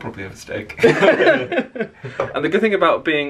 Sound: they laugh

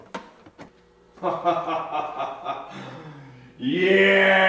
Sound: pleased laughter

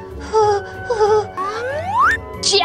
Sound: shaky Breath

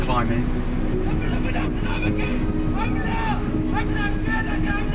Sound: men shouting

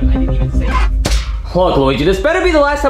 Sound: vent clangs

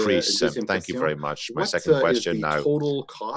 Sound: speaking French

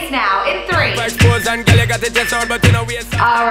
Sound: timer beeping

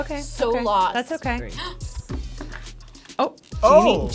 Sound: gasps

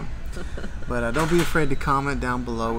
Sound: chuckles

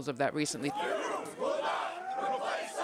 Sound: protesters chanting

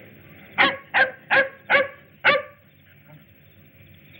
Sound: dog barking

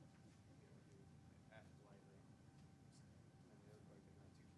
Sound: faintly speaking

